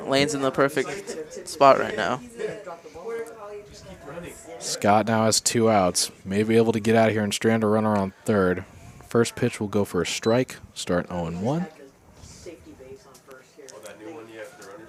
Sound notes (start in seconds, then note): 2.9 indistinct chatter; 12.4 indistinct chatter